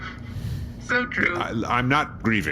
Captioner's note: stifled snickering